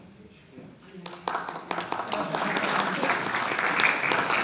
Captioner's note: audience claps